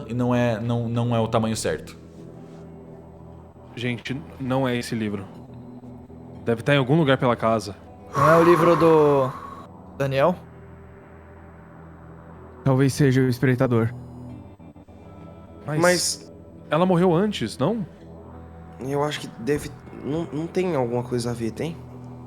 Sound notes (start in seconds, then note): 8.1 sigh